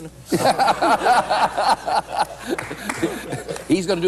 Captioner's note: laughter